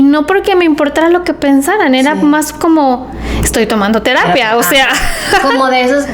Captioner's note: laughs